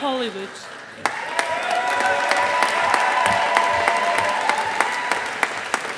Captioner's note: audience applauding